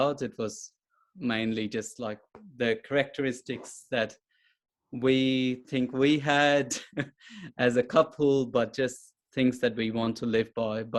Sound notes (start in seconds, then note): 6.1 chuckles